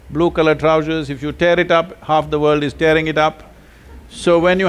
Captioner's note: few laugh